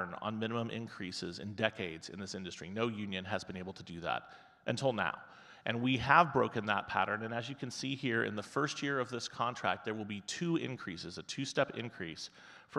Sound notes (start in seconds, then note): none